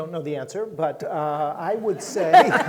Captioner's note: audience laughing